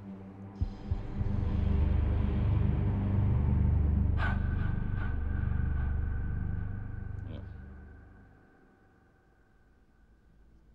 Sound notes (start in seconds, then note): 4.2 reverberating sound effect; 7.2 grunts disgustedly